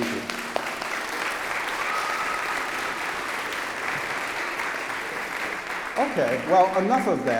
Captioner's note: applause